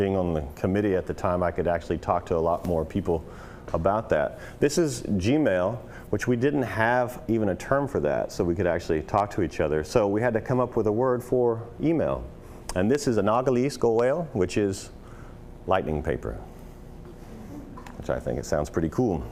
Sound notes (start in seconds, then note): 16.8 audience noises